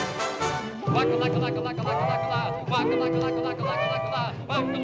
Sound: humming

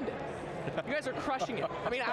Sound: laughing

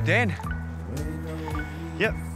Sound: mobile beeps

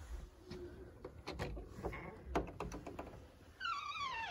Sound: door opening and creaking

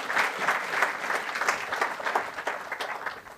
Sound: applause

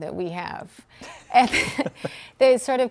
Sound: laughing

